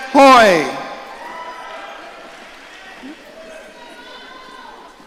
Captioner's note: audience cheering